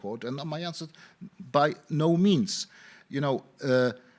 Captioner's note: none